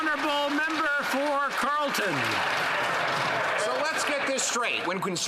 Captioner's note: applause